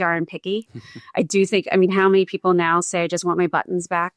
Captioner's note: chuckles